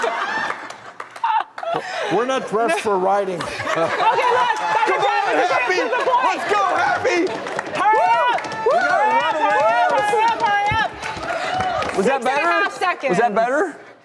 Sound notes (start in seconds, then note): 3.0 audience cheers and laughs